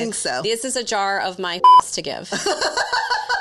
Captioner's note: beep; laughs